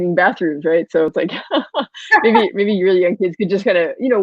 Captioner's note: laughs